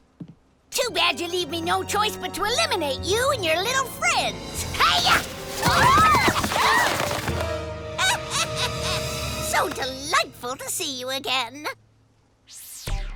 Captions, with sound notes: but to eliminate you and your little friends! Hi-yah! [THE SPIES SCREAM] [THE GRANNY CACKLES] So delightful to see you again!